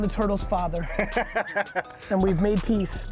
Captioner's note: laughing